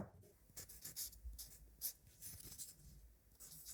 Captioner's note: marker writing